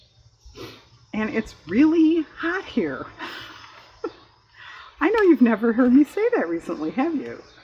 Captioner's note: laughs